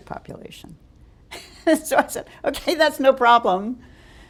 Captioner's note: chuckle